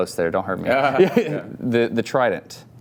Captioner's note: laughs